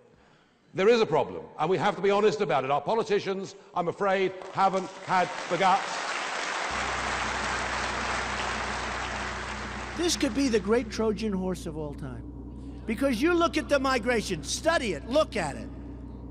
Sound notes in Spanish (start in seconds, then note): 5.8 aplausos